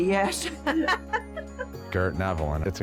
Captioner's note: both laughing